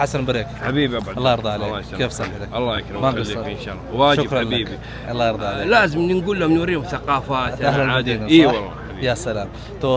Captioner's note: Arabic